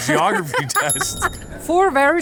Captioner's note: bell dinging